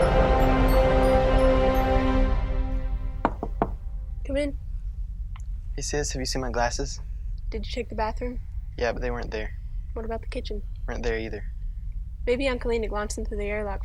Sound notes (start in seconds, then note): 0.0 instrumental music; 3.2 knock on door